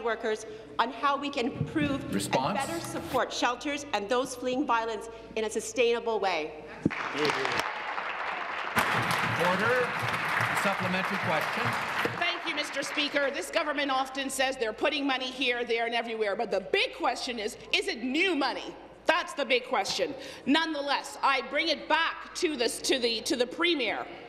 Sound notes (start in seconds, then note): 11.2 applause